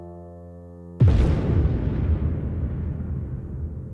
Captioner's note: explosion